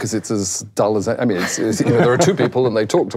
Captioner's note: laughing